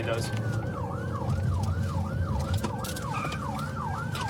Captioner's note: siren wailing